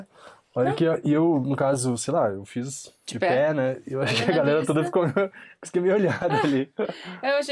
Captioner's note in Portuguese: risadas